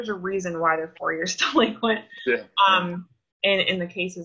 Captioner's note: laughs